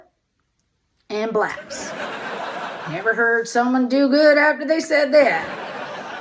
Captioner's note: audience laughter